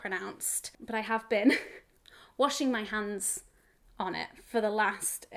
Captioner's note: chuckles